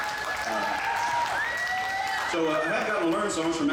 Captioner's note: audience cheers